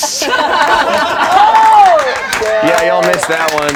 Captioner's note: laughing and applauding